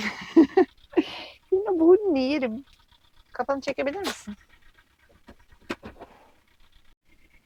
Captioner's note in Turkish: kahkaha